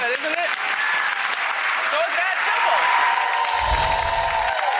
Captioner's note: applause